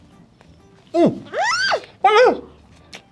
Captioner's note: happy squeals